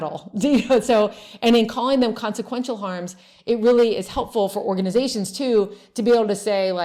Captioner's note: laughs